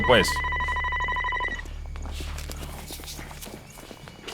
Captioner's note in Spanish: Suena teléfono